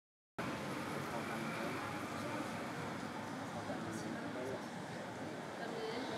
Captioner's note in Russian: Шум листвы